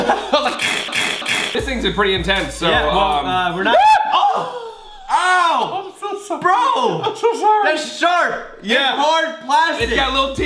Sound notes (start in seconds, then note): 0.0 both laugh; 0.3 chewing; 3.7 screams